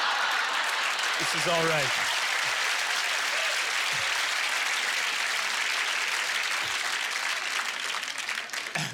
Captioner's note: audience laughter; applause